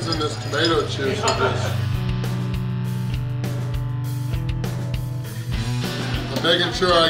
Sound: rock music; laughing

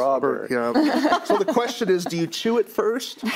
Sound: others laugh

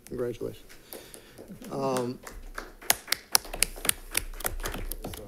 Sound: audience applauds

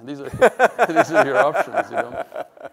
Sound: laughs

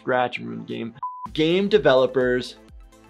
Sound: buzzer beeps

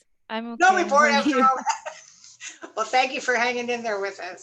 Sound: laughter

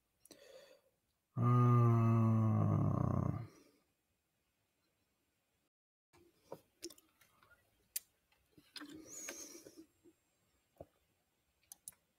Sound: silence

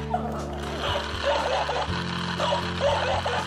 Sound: laughter; dog barking

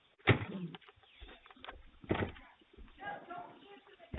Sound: banging on door

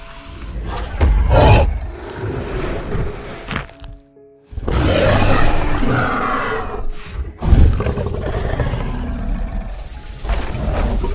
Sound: stomping Sounds, Huffs with Low Growls

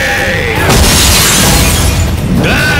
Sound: glass shatters

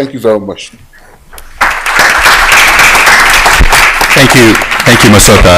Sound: applause

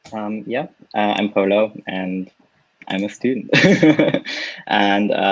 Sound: laughs

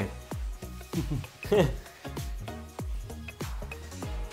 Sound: chuckles

